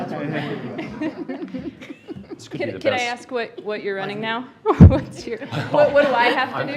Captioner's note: laughter